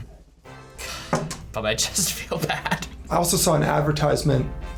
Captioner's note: laughs